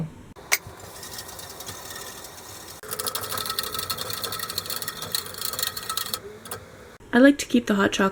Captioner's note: mixing sounds